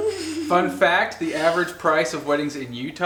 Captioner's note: male Voice